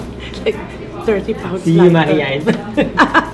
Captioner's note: laughs; laughs